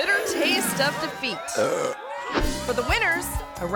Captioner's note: contestant burps